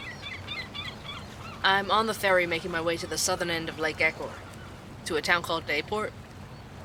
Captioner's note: ambience - outdoor ferry travel